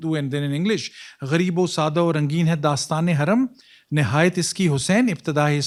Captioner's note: non-english speech